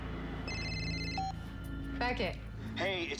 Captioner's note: cell phone rings, beep